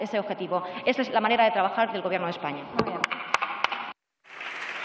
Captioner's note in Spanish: Aplausos